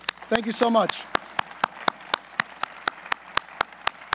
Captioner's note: applause